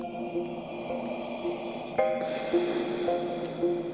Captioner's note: muffled breathing